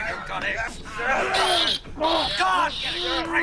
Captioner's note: styles groans